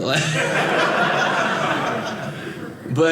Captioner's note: audience laughing